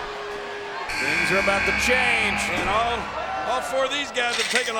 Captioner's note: buzzer sounding